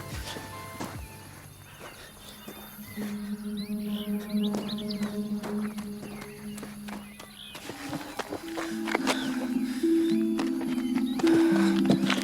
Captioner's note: natural sounds